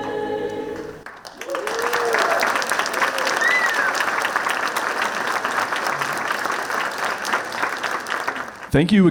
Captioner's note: clapping